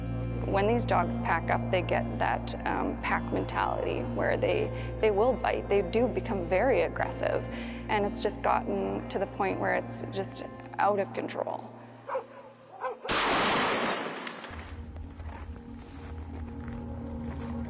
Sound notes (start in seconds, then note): 12.6 dog barking; 13.0 gunshot